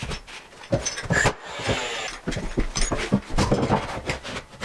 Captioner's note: tool whirring